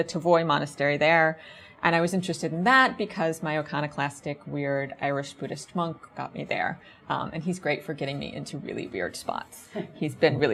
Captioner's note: audience chuckles